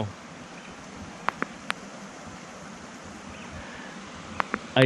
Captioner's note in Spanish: sonido del río